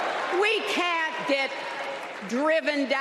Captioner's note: applause